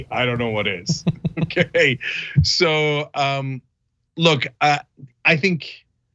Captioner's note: laugh